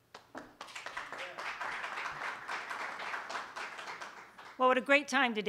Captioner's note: applause